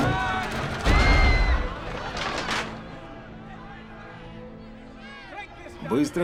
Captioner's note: women screaming